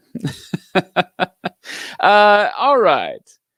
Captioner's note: laughs